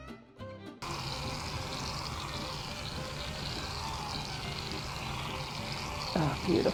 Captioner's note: whizzing sounds of off-screen, filling a pie tin with cream